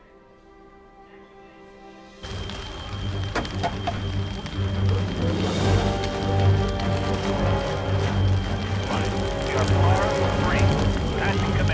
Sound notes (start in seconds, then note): 2.1 fire crackles; 2.5 dramatic music